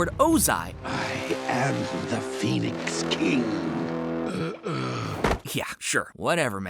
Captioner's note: groaning